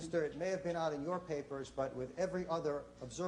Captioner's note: none